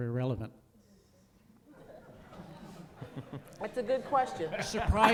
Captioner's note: crowd laughs